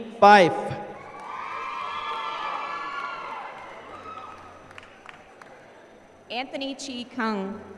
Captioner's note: applause